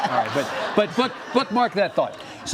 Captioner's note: audience laughs